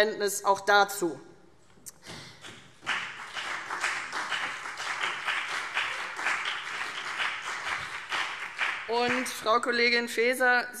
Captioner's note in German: Beifall CDU und BÜNDNIS 90/DIE GRÜNEN